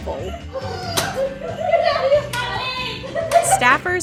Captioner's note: laughing